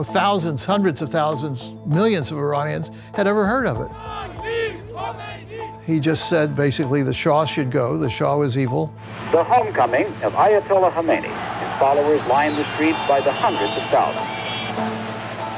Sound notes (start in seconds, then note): 3.9 chanting